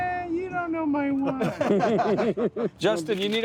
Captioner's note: laughter